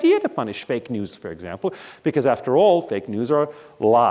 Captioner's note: none